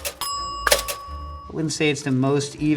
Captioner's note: bell pings